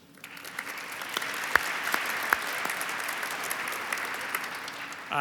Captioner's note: audience applauds